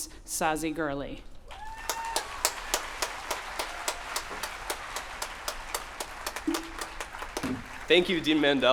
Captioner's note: applause